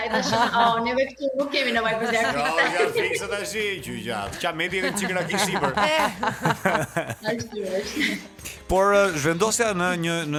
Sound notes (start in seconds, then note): 1.6 laughing; 4.2 laughing with the joke